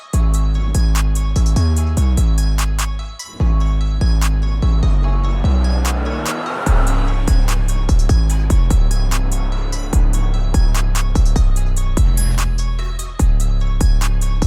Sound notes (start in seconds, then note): 6.0 engine revving; 10.8 exciting hip-hop music